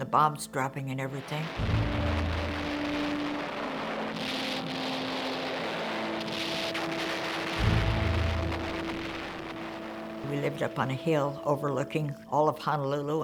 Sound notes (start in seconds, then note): 1.8 bombs exploding